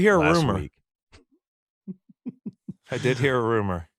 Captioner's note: laughs